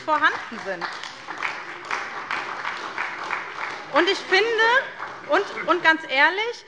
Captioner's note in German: Beifall bei der SPD - Zurufe von der CDU